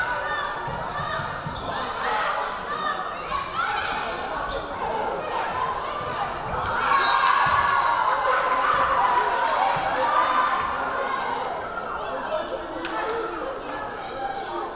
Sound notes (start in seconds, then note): 6.4 crowd cheering; 6.8 whistle blaring